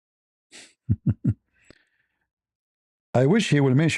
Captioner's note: snorts